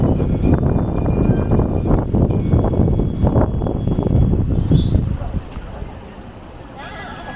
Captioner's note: laughs